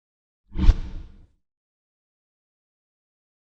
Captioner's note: swishing